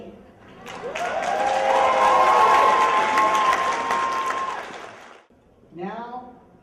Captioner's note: cheers and applause